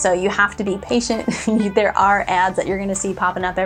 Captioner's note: laughs